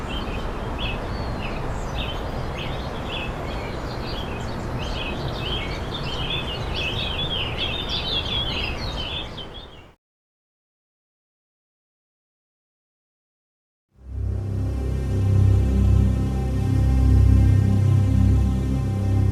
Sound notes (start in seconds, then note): 0.0 birds tweeting continues; 18.0 ominous synth music